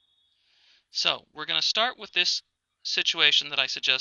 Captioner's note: voiceover